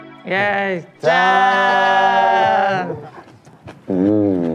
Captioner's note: cheersing in Korean